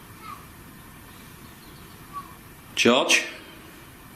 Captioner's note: child chattering